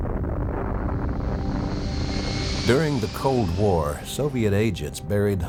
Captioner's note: bomb exploding; ominous music